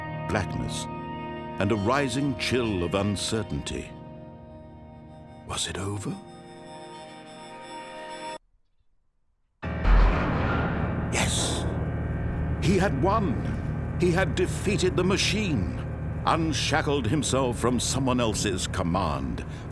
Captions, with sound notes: Blackness and a rising chill of uncertainty. Was it over? (music stops) (door opens) Yes! He had won! He had defeated the machine, unshackled himself from someone else's command.